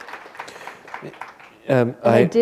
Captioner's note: applause